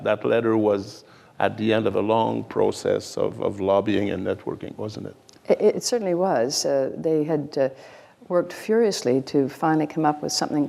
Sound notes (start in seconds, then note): none